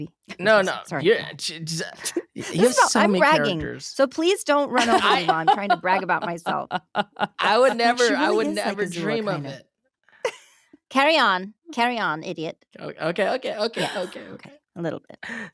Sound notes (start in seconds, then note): 0.4 giggle; 9.6 laughs; 10.7 in Azula's voice